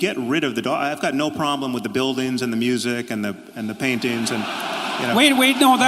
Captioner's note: laughing